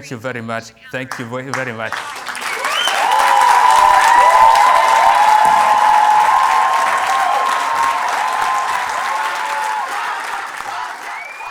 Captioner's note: cheers and Applause